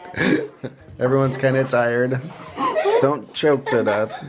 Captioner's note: both laughing; laughing